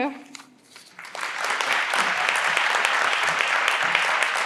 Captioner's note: everyone claps